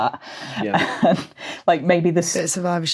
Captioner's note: chuckles